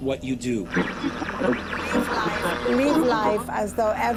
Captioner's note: static